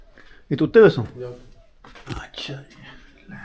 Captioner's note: speaking Saraiki